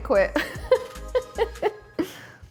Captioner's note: laughing